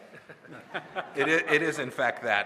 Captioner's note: laughter